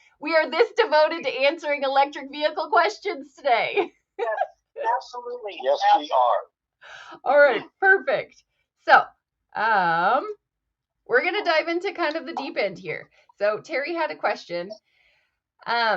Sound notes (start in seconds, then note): 0.0 laughs; 4.8 laughs